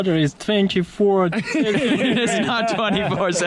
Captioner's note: all laughing